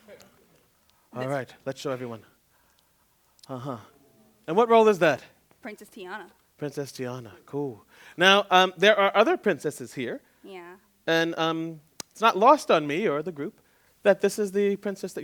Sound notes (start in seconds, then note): none